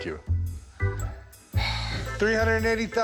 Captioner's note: sighs